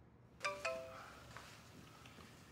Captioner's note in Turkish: Mesaj sesi